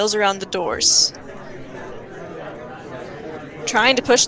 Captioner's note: crowd murmurs ... continues in bg